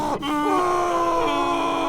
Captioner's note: grrrrrrrrrrrrrrrrr